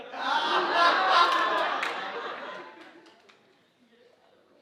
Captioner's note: audience laughing